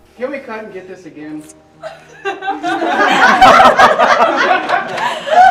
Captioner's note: crew laughing